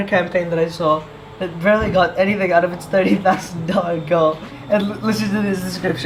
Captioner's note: chuckles